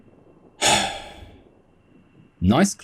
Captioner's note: sigh